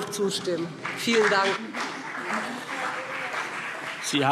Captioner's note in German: Beifall BÜNDNIS 90/DIE GRÜNEN und CDU